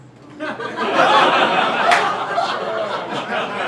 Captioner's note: crowd laughing